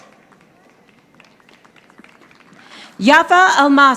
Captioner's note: audience applauding